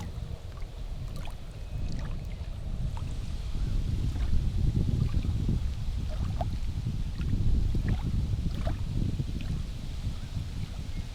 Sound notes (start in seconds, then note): 3.7 soft wind blowing